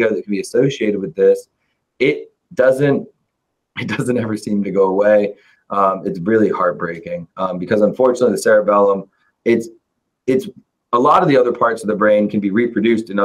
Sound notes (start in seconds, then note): 3.8 chuckles